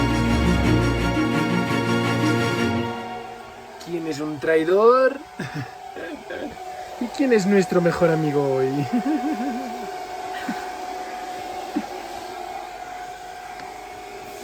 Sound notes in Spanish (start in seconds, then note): 5.4 risas